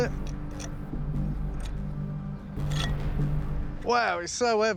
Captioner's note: scraping